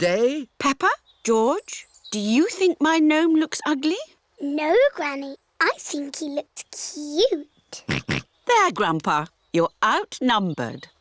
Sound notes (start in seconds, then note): 7.9 oinks